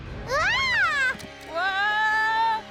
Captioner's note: none